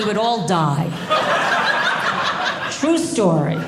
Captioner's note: audience laughing